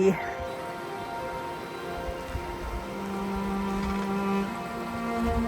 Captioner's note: sound of creek